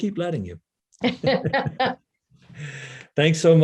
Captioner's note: laughing; laughs